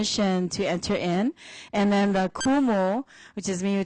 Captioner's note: foreign language